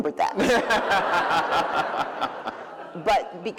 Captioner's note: laughter